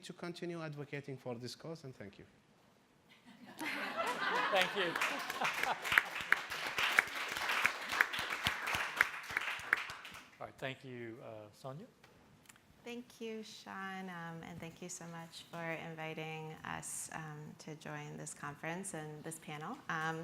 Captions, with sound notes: to continue advocating for this cause, and thank you. (laughing) - Thank you. (applauding) - Alright, thank you; Sonia? - Thank you, Shaun, and thank you so much for inviting us to join this conference and this panel.